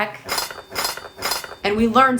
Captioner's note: utensils clanking